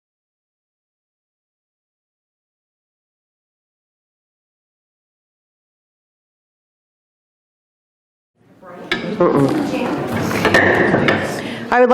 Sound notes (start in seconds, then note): 8.5 people chattering distantly; 10.0 gavel taps